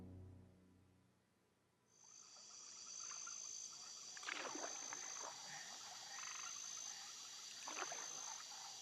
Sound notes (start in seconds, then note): 2.0 insects chirping, water gently splashing